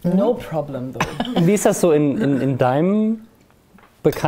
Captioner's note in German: Lachen